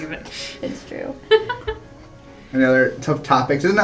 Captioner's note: laugh